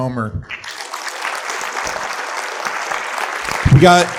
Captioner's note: attendees applauding